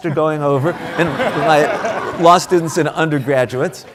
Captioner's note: audience applauding